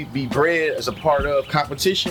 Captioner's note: birds Chirping